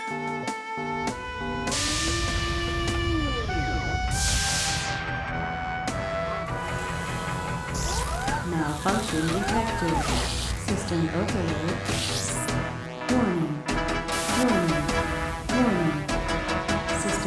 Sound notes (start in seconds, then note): 0.7 alarm humming; 2.4 chamber hisses; 7.3 machines whirring; 12.5 alarm blaring